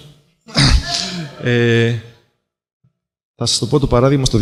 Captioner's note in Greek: Φωνές από το ακροατήριο